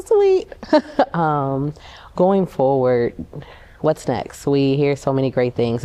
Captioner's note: laughter